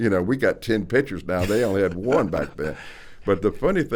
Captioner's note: chuckles